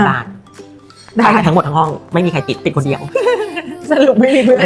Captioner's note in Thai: เสียงหัวเราะ